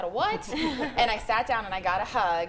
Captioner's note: group laughing